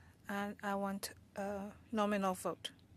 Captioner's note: speaking French